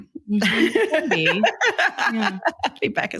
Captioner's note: laughs